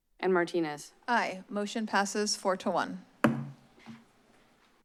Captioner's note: bangs gavel